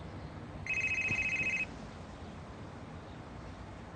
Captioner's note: cell phone rings